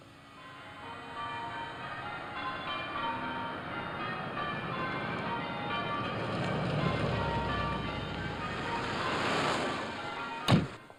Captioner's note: bells ringing; car door slams shut